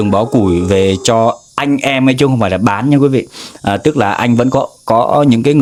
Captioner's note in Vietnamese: khịt mũi